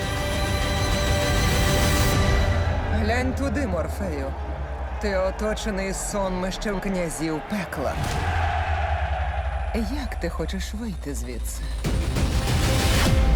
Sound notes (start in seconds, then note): 0.0 music grows to crescendo; 2.1 crowd cheering; 8.0 crowd cheering; 11.6 dramatic sting